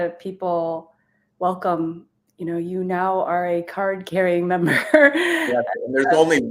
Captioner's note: chuckles